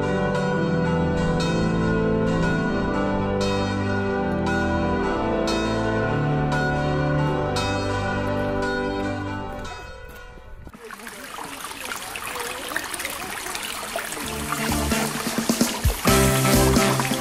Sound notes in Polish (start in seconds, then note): 8.7 dzwon i muzyka milkną; 10.6 plusk wody; 13.9 wesoła, żywa muzyka